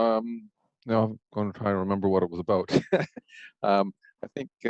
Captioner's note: laughs